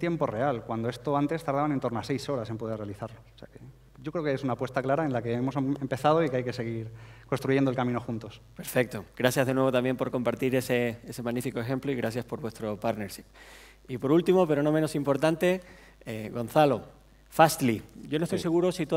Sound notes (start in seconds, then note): 9.5 speaking spanish